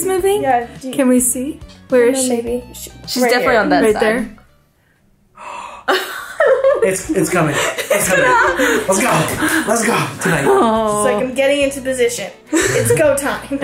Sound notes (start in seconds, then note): 5.9 all laughing